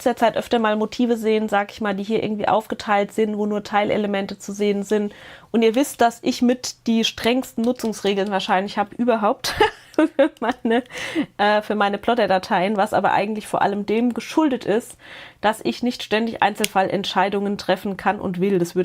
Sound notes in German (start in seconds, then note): 9.4 Gelächter